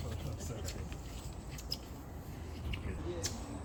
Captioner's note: sound of squeaky flipflops